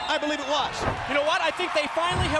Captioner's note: crowd cheering